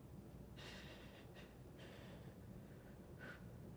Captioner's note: breathing heavily